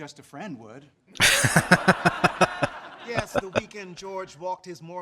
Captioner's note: laughing